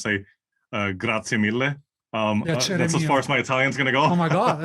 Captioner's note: laugh